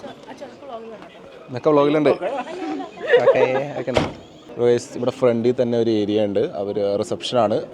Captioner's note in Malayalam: പൊട്ടിച്ചിരി